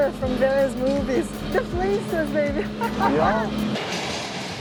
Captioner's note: laughs